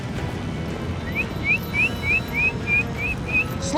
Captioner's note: whistling